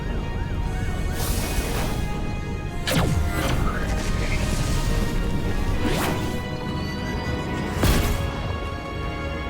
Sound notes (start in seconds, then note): 2.8 laser blasting; 5.1 dramatic music